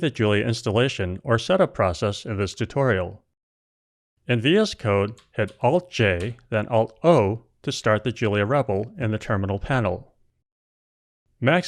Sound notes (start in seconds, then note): none